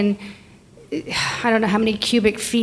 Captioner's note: sighs